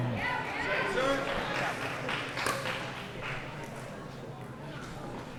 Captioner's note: grunting; cheering